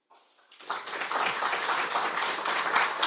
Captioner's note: applause